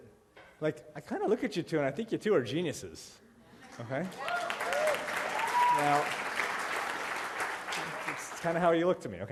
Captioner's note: applause